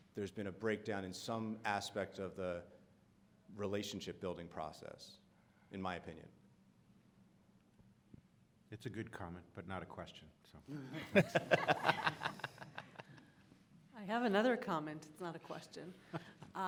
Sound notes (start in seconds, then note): 10.9 audience laughing